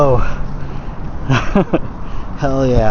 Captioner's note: laughs